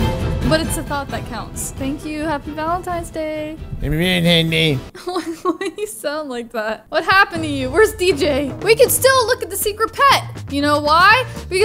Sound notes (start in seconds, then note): 3.8 grumbling; 4.9 laughs